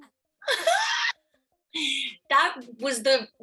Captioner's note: laughs